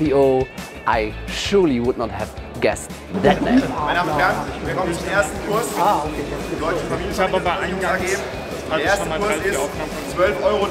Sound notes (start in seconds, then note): 3.7 speaking german